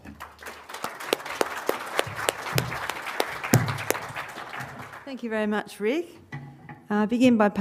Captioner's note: applause